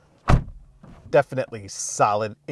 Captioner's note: car door thuds